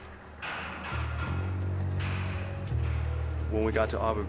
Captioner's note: clanging Bars